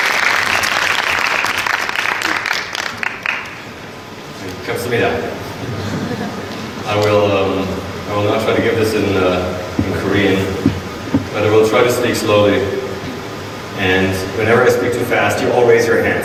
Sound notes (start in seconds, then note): 1.9 audience applauding; 4.6 speaking foreign language